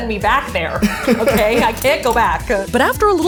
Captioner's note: laughing